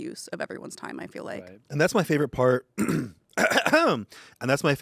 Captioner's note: clears throat